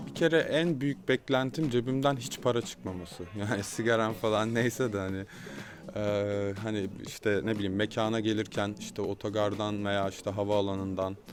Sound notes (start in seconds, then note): 3.0 laughs